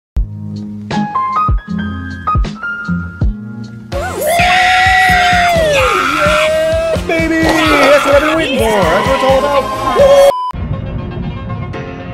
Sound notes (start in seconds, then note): 4.0 screeching